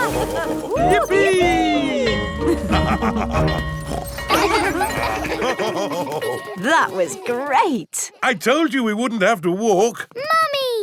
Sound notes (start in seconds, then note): 0.0 both laughing; 2.5 school bell ringing; 3.4 daddy pig snorts; 5.5 children laughing; 5.5 daddy pig laughing